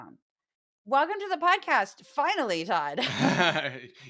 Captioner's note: laugh